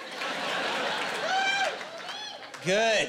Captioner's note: whooping and cheering